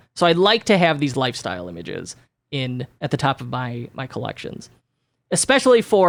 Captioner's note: none